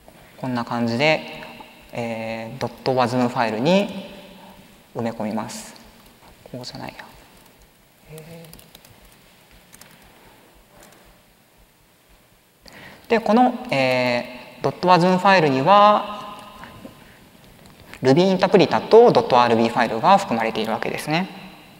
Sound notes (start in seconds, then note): 8.7 silence